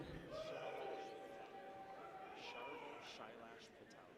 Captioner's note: people cheer